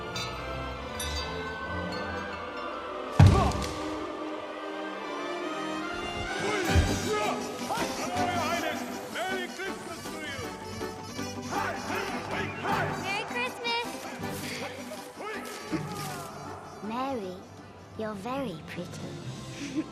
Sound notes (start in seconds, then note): 0.1 tinkling; 3.2 thud